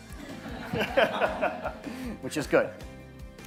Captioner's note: audience and interviewer laughing